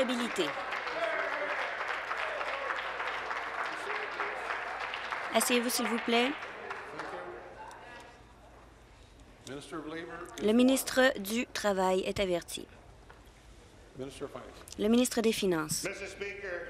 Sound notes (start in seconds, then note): 4.1 voice trailing; 5.0 applause